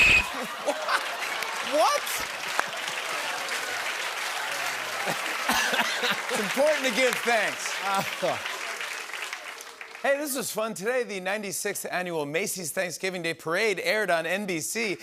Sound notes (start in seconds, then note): 2.9 applause